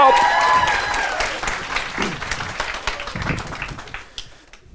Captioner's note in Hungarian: ujjongás és taps